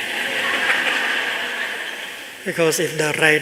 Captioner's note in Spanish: Risas